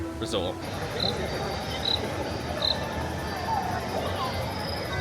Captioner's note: insects chirping